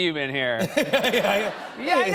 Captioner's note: laughter